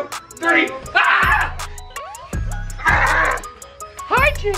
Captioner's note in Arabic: يصرخ